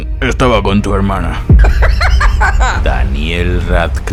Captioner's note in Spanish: risa de colesterol